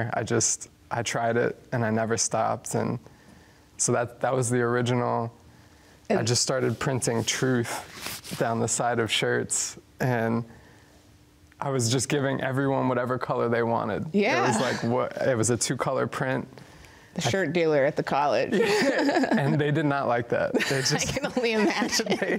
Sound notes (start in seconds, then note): 18.5 laughter